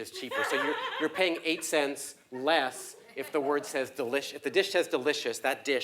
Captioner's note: laugh